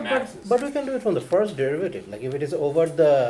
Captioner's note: voiceover